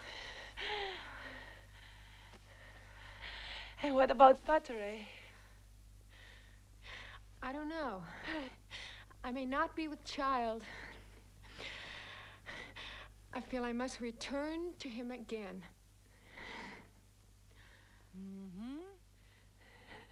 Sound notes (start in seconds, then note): 0.0 both breathing heavily